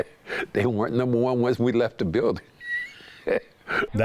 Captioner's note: laughs